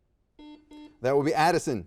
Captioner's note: buzzer dings